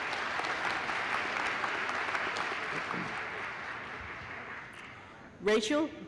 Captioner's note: applause